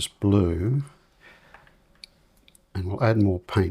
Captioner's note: silence